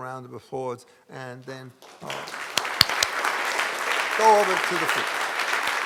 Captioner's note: audience applauding